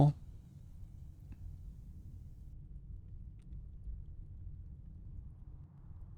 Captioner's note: sighs